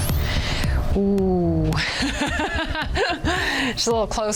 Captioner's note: laughs